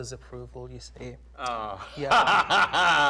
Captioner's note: laughs